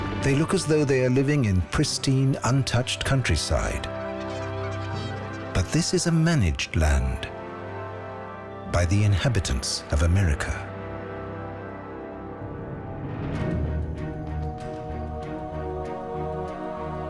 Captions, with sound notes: They look as though they are living in pristine, untouched countryside. [birds squawking] But this is a managed land... by the inhabitants of America.